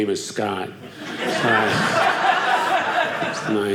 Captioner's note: audience laughing